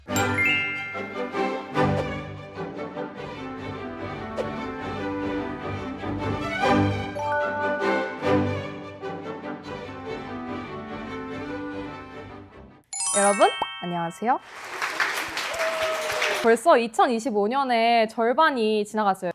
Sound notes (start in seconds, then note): 14.4 A round of applause